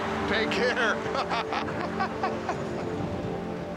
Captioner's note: walks away laughing